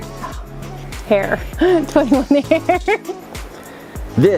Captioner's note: laughs